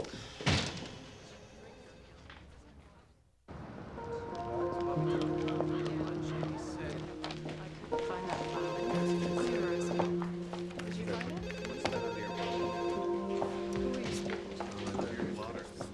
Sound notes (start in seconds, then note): 0.4 door slams; 8.4 phone ringing